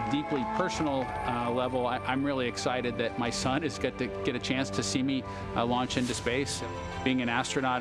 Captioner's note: applause